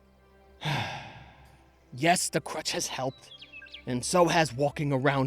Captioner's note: sighs annoyed